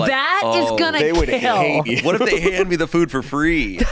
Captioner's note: laughs